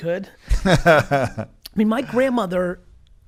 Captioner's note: laughs